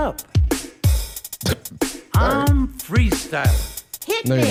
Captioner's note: laughs abruptly